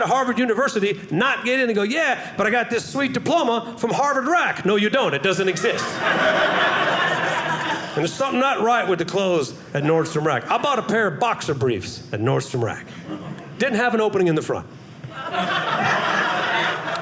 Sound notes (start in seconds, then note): 5.5 audience laughing